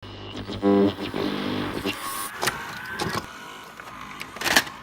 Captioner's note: video tape machine sounds